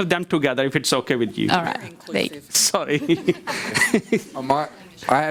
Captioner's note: laugh loudly